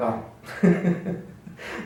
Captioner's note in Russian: смех